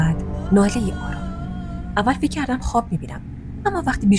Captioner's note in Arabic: خشخشة، همس، ثم... أنين خفيف